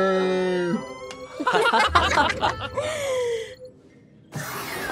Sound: laughing

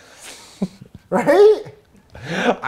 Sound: laughs

